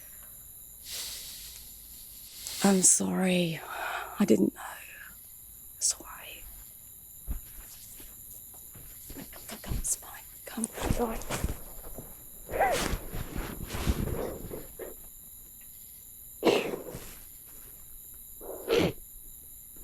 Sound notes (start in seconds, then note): 12.8 Max crying